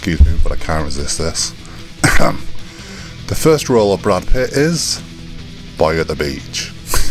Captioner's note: ahem